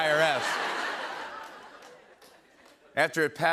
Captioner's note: laughter